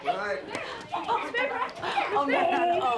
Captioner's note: children chattering